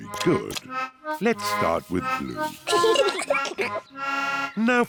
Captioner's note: both giggle